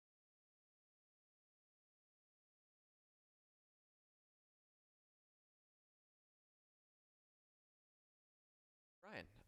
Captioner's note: no audible dialogue